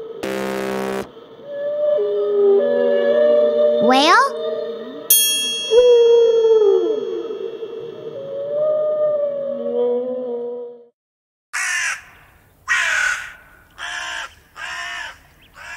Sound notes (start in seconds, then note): 0.0 buzzer rings; 5.1 bell dings; 6.0 whale singing; 11.6 animal cawing